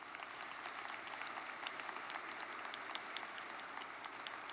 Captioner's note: audience applauds